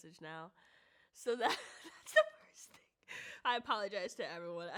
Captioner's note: laughs